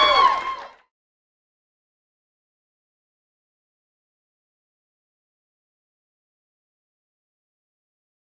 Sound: applause

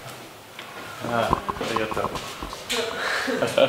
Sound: laughing

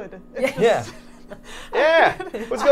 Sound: Carly and Safiya laughing

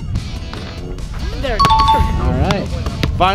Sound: ding

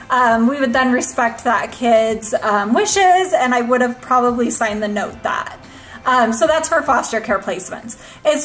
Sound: none

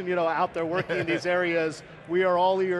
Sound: laughs

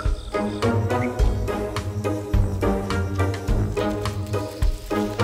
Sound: runs

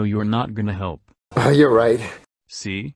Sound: sighs

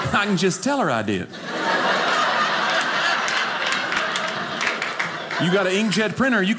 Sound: audience laughing

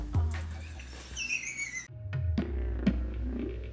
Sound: laughs; funky music

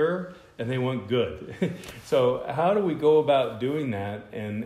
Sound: laughter

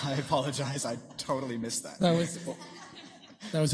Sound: laughter

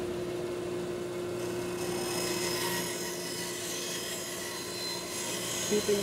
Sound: tool noise

